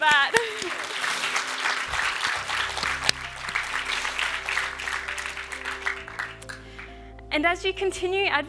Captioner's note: cheers and applause